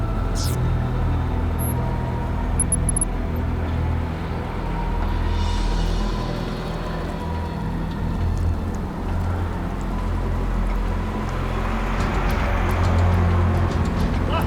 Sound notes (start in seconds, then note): 0.3 interface whirring; 9.1 truck engine roaring; 12.0 suspenseful music